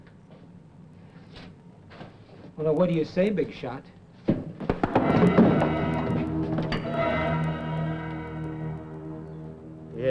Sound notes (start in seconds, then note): 4.8 suspenseful music; 5.0 fist thuds